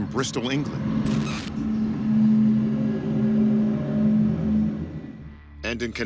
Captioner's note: humming